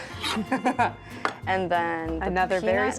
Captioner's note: both laugh